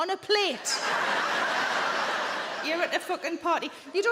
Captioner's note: audience laughing